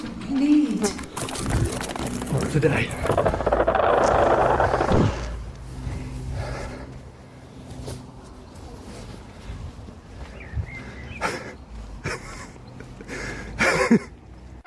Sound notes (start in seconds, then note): 0.8 rumbling continues; 4.3 portal sound; 12.0 laughter